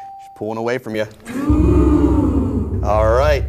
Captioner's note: oohs